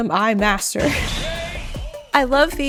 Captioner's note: video game K.O. announcement